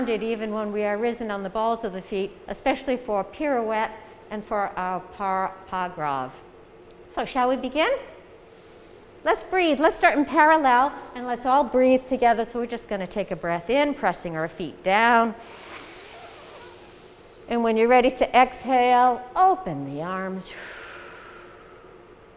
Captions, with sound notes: even when we are risen on the balls of the feet especially for a pirouette and for our par pas grave. So shall we begin? Let's breathe let's start in parallel and let's all breathe together so we're just going to take a breath in pressing our feet down [inhale] and when you're ready to exhale open the arms [exhale]